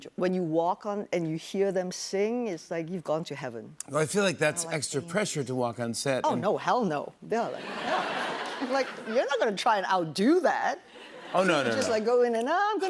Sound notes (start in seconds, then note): 7.5 laughter